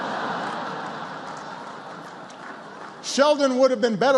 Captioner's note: laughter